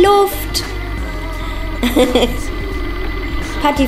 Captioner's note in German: lacht